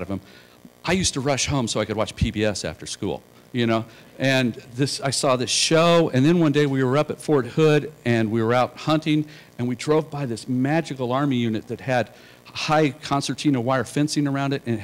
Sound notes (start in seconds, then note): none